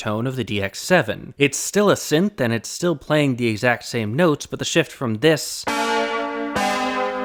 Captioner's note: bang